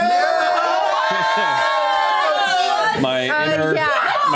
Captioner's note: cheering